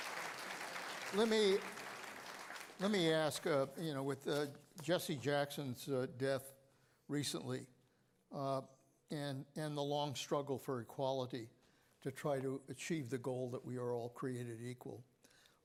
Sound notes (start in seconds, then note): 2.9 applause